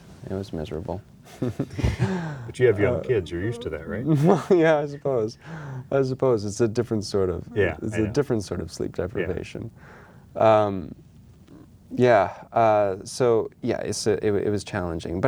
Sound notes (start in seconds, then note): 1.3 both laughing; 5.1 laughing